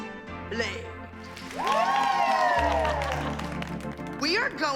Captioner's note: cheering and applause